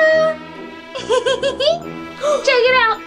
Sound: Vampirina giggling

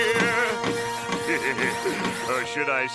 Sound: laughs

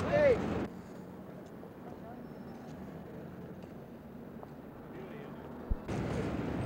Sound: street noise

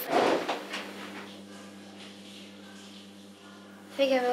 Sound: shower noise

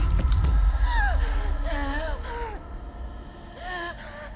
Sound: Zara gasping

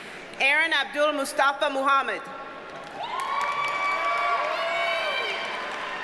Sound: audience cheers and applauds

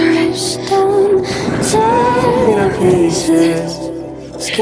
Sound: flames whoosh

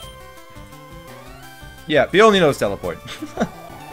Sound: laughs

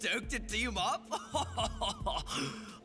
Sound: Rip laughing

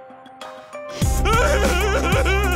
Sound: laughing

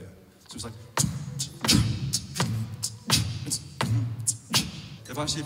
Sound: beat boxing

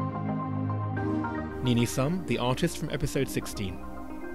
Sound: voiceover

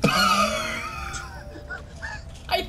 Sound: wheezing laughter

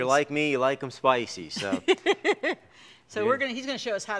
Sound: laughs

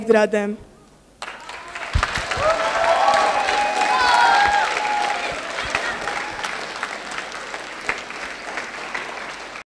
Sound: applause

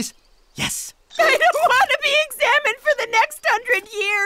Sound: crying

